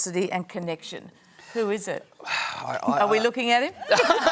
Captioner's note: scoffs; laughter